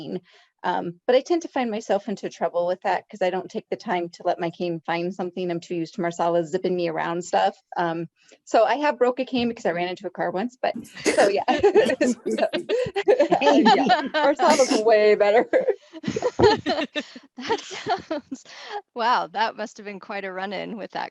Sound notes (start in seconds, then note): 16.0 laughter